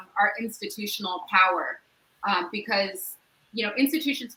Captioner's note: none